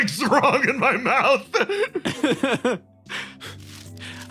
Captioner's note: laughs